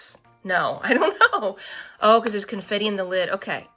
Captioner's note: laughs